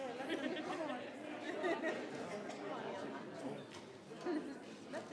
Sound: people chattering

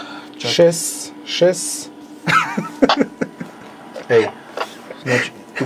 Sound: laughing

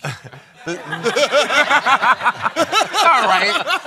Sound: laughter

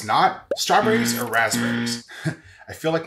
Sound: buzzer blares

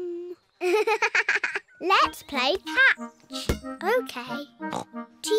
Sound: giggles

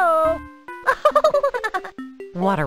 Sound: laughs

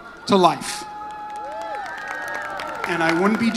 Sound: audience cheers

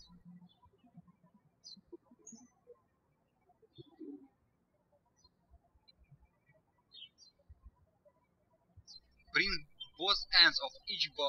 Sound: birds chirping

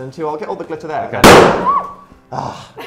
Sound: ballon pops; screams; sighs

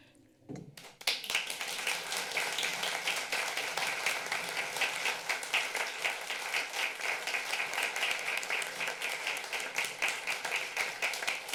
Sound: applause

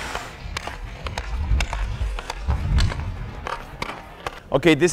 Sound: skates scraping; stick slapping

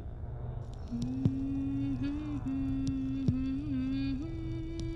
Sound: zombie humming

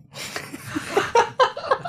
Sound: laughter

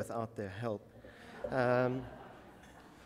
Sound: audience laughter

